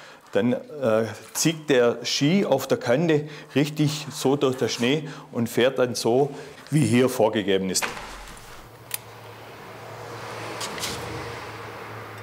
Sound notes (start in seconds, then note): 9.6 even rustling